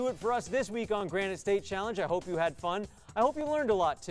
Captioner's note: none